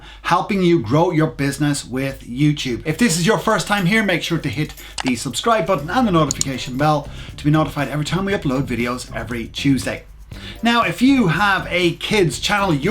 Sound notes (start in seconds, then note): 6.2 mouse clicks